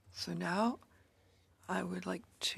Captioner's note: speaking in French